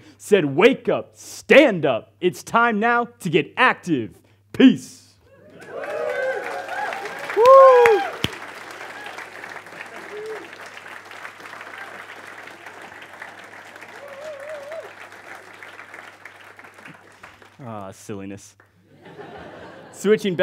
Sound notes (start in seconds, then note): 5.4 audience applauds and cheers; 18.8 audience laughs